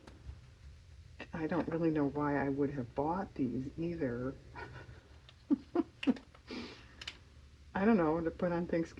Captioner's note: laughs